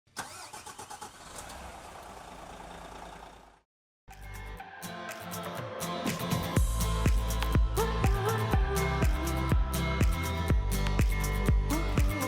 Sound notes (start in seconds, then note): 0.1 engine starting; 4.1 upbeat music